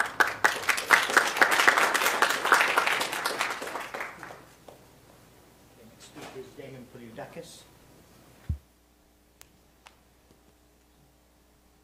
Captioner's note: applause